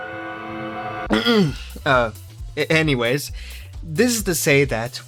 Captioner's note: clears throat